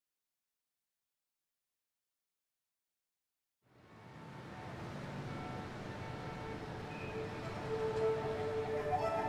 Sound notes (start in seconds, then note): 3.6 traffic sounds; 6.8 orchestral music